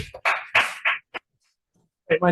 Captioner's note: constituent clapping